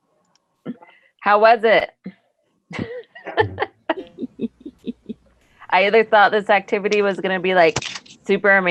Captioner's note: laughs